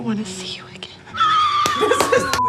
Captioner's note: Katya laughs